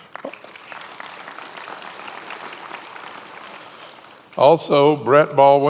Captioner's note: many applauding